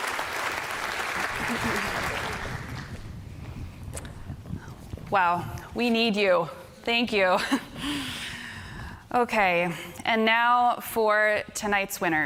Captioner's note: applause